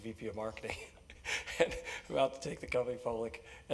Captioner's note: laugh